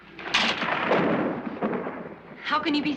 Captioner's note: thunder crashing